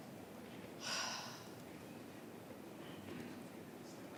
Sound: sigh

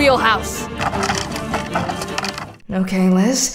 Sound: rope tying

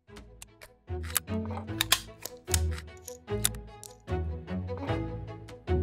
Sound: orchestral music; equipment clinks

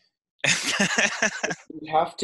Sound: laughs

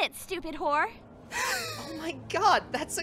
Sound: SEKAI gasps

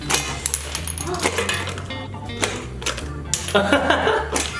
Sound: cards clinking; blowing; laughing

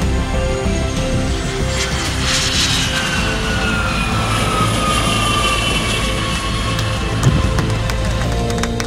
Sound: engine noise of airplane landing; people clapping

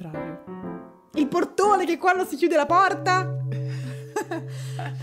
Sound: laughing

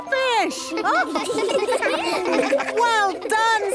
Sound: children laughing

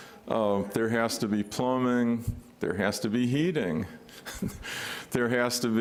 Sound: laughs

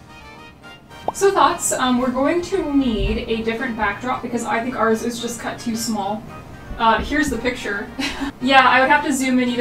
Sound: laughs

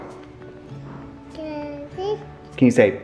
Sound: babbles

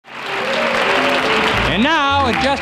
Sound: audience applauding; upbeat swing music

